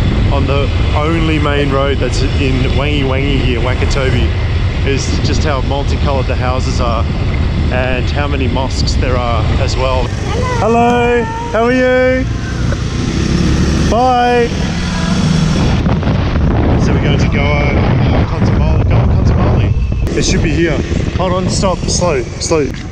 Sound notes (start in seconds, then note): 12.3 motorcycle humming; 16.0 wind roaring